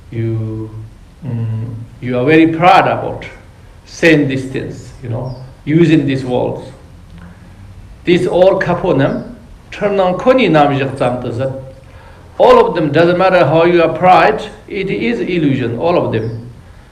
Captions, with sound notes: You are very proud about saying these things, you know, using these words. This all [Tibetan] All of them, doesn't matter how you are pride, it is illusion, all of them.